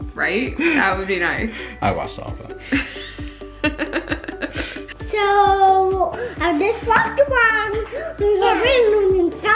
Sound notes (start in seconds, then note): 3.6 laughs